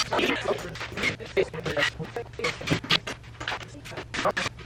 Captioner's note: rapid, distorted speaking